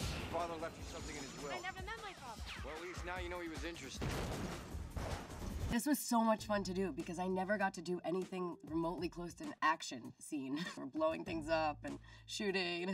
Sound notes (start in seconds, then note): 3.9 explosion banging